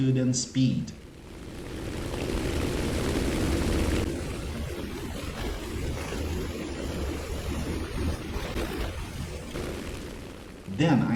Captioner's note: aircraft Engines ,Gunfire, Flying Sounds